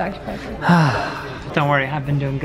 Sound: sighs

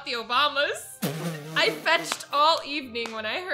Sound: laughs

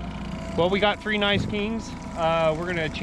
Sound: boat engine idling

